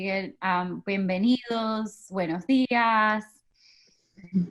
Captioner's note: speaks in Spanish